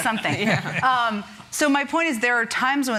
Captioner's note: laughter